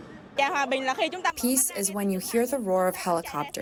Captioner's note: through translator